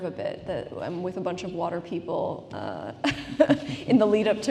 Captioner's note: laughs